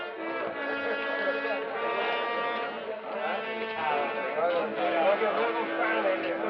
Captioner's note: crowd clamoring